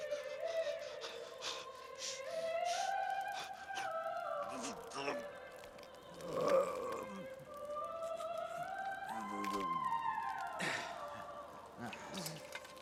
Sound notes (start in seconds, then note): 0.3 panting; 8.8 arrow snaps